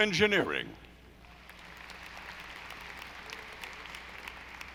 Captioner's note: audience applauding